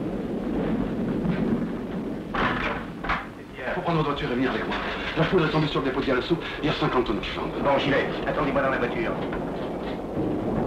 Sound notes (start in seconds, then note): 2.4 door noise